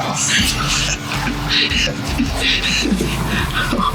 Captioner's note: laughs